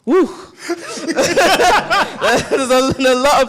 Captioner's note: all laugh